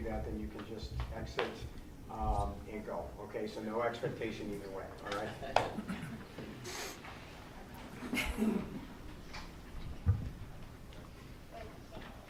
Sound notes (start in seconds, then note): 5.0 crowd chattering